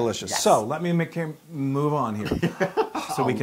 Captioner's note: laugh